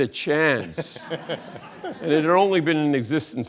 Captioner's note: audience laughs